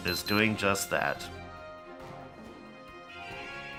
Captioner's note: beeps